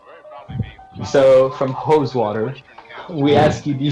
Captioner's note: gross breathing